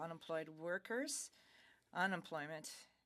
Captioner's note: speaking French